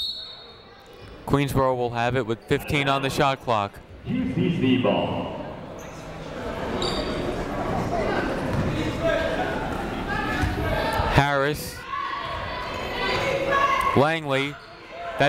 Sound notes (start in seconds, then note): 0.0 whistle tweeting; 6.2 people shouting in the crowd; 11.8 people shouting in the crowd